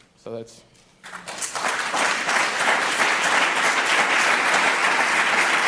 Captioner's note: applause